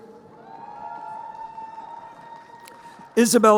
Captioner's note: crowd cheering